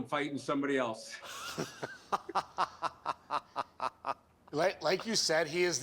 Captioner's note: laughter